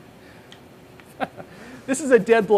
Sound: laughs

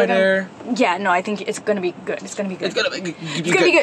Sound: mocks Jo's stuttering

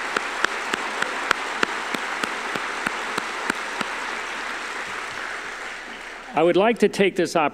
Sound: applause

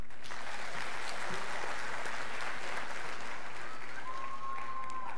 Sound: scholars applauding

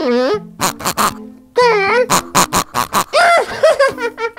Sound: pig oinks three times; zb laughs

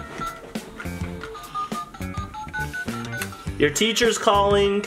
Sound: beeping; phone dialing

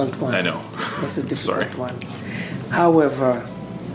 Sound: chuckles

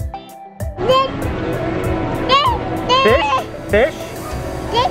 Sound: baby vocalizing

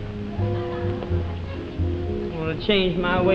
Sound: audience laughing

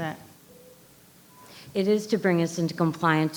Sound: microphone beeping

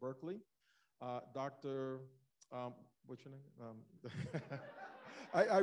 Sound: laughs

